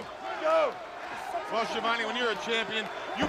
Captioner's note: crowd chatter